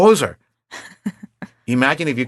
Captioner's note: chuckling